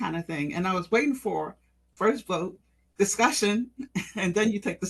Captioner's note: laugh